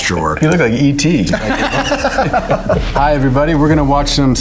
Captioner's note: Ben laughs